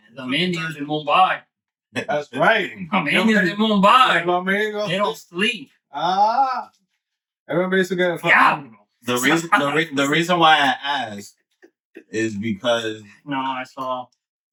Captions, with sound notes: (Speaking Foreign Language) That's right. (Speaking Foreign Language) They don't sleep. Ah. Everybody's gonna fuck with me. The reason why I asked is because-- No, I saw.